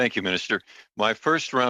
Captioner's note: speaking Alternate Language